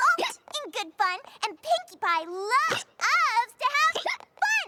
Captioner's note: hiccups; hiccups; hiccups